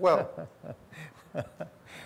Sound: laughter

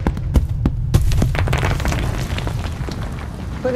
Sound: rocks rolling and rumbling

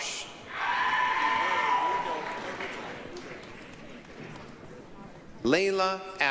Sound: applause, cheering

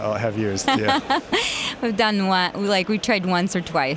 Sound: laughs

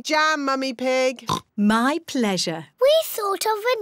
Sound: oinks

